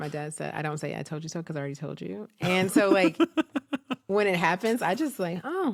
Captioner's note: laughs